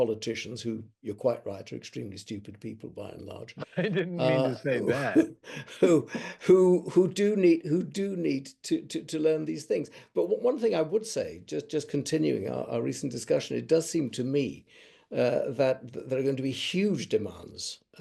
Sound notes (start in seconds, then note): 3.4 laughs